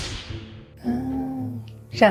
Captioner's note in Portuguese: Sussuro: Ahnn